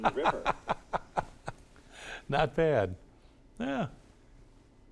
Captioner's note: laughs